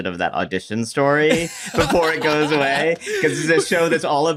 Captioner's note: laughter